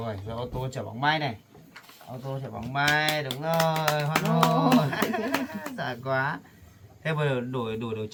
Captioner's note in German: Fake-Jubel